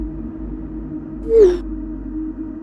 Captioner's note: ominous Tone; notification Sound; ominous Tone